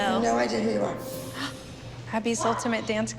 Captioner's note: gasps